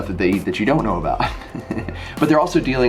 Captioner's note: laughs